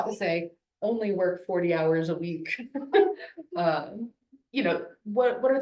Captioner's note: laughs